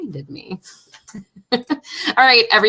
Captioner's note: laughing